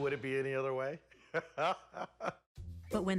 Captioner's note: laughing